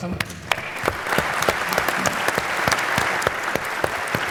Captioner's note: applause